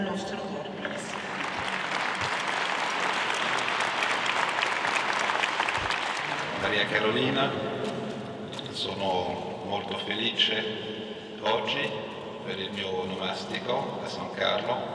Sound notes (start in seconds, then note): 0.8 applause; 6.5 speaks in Italian